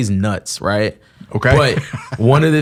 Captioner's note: laughs